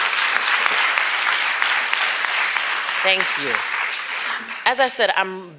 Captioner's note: applause